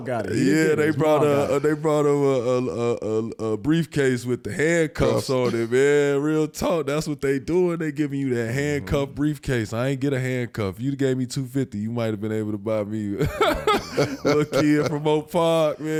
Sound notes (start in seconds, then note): 13.2 all laugh